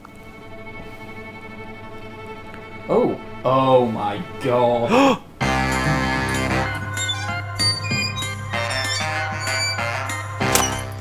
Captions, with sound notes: (tense music) - Ooh! - Oh, my God! (gasp) (upbeat music) (squeak)